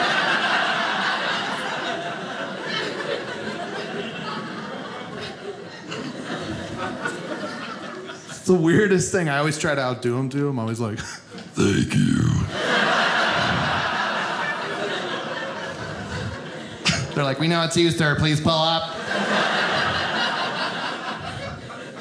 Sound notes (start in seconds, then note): 0.0 audience laughing; 11.4 deep voice; 12.3 audience laughing